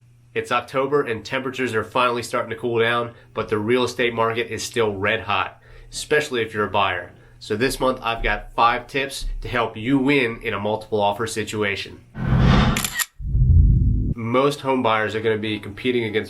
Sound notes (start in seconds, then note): 12.3 camera shutter; 13.1 air whooshing